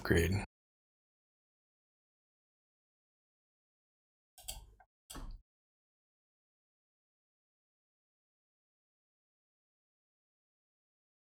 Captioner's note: silence